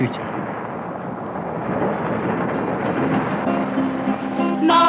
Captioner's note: van traveling down gravel road